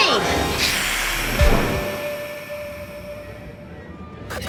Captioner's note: Quaid hissing; lights buzzing; vampire hissing